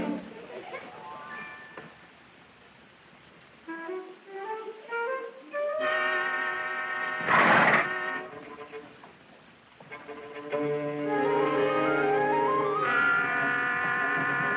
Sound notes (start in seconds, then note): 0.3 children giggling; 7.0 snorts; 11.0 dramatic music playing